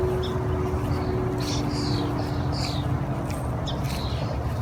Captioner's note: somber music; birds chirping